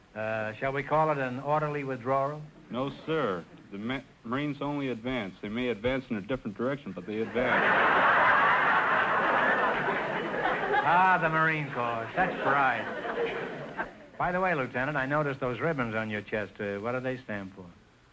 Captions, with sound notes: Shall we call it an orderly withdrawal? - No sir, the Marines only advance. They may advance in a different direction, but they advance. (audience laughter) - Ah the Marine Corps, such pride! By the way Lieutenant, I noticed those ribbons on your chest. What do they stand for?